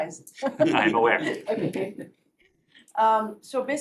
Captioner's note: laughter